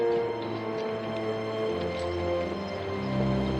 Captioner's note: sounds of horses and wagons